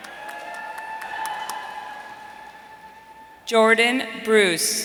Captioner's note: audience cheering